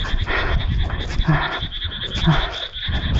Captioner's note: groan of pain